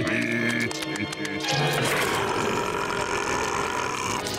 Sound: groaning; roaring

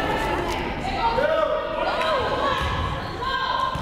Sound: crowd yelling

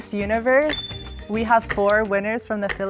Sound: bell dings

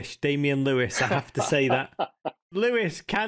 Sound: laughing

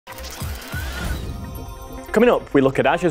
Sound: gears clicking

